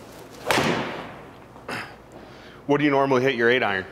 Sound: ball thuds

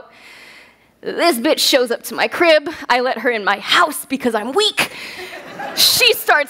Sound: laughs

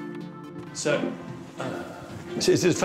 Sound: sighs

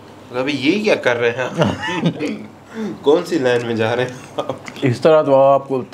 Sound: laugh

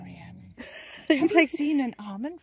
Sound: laughing

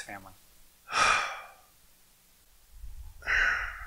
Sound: he exhales

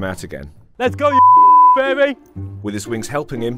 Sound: beep

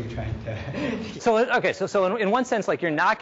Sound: chuckles

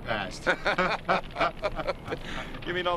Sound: laughing

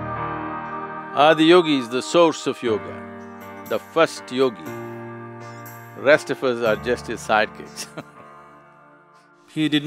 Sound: laugh

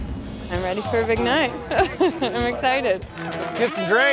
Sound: chuckling

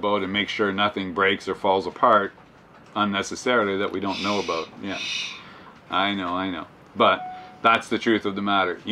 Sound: shhh

